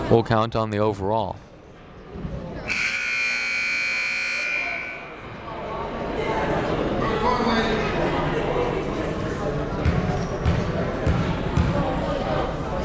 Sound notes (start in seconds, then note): 2.6 buzzer blaring